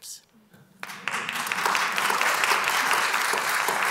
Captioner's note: applause